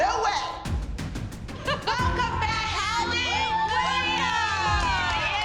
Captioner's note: cheering